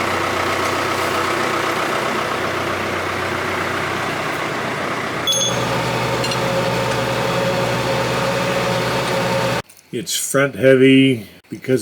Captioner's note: backhoe running